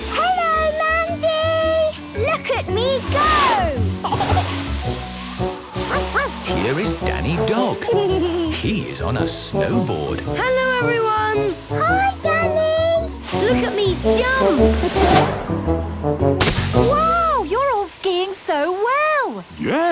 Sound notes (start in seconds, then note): 3.8 giggling; 5.7 laughing; 5.8 barking; 15.1 laughing